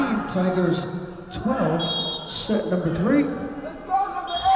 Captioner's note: whistle blowing